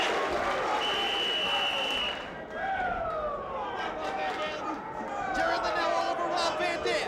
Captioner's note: applause